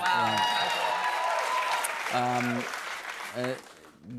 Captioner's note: cheers and applause